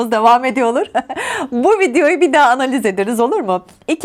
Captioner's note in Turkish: kahkaha